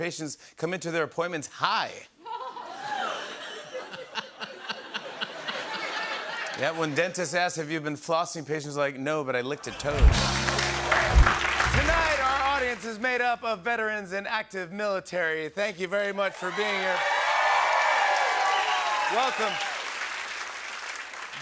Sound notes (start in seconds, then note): 2.2 laughter; 10.0 applause; 16.5 cheering, whistling, and applause